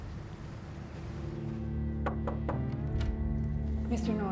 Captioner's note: knocking